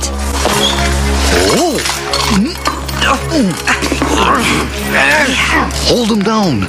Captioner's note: grunting noises